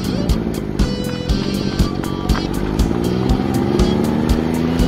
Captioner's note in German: Motorengeräusche; aufregende Musik